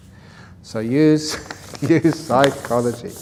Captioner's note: laughs